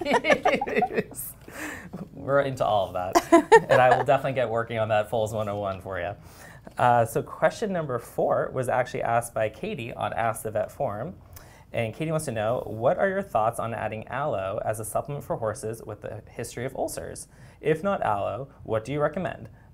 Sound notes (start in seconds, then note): 0.0 laughter